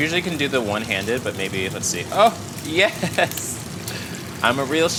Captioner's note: laughing